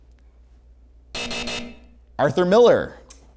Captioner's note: hard buzzing